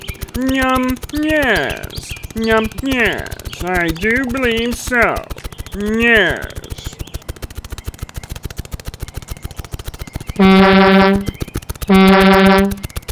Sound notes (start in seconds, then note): 6.7 snapping; 10.4 honk honk